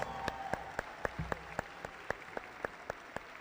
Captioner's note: audience applauding